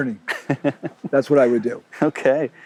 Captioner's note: laughing